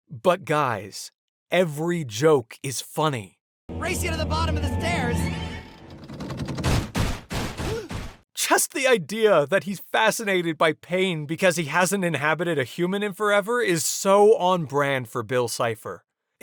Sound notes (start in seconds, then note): 5.9 clattering; 7.6 anime gasp